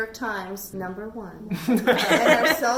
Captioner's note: everyone laughing